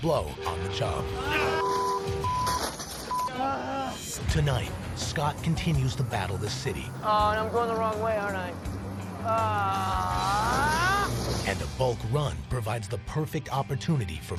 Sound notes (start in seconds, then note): 0.3 car horn honks; 3.3 groans